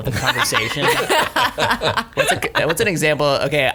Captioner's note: group laughing